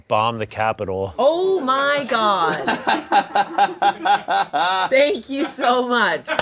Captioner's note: laughing